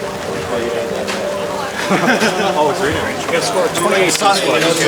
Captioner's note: background talking